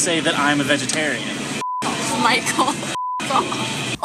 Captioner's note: laughing